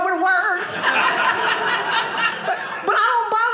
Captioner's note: audience laughing